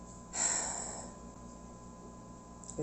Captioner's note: deep sigh #2